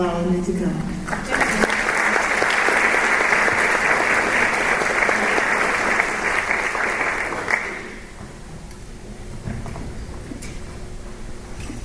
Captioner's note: applause